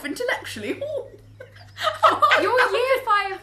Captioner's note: laughs